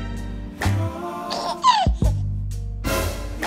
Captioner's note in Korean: 헤헿